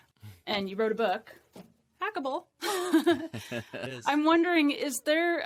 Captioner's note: laughs